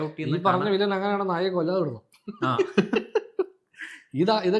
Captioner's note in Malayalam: പൊട്ടിച്ചിരി